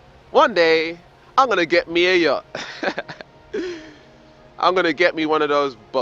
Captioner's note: laughs